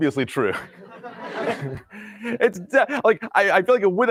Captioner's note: laughter